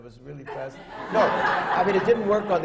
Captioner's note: laughter